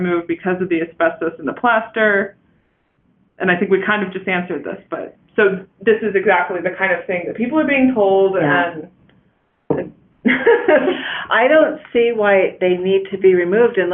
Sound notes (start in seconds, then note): 10.3 laughs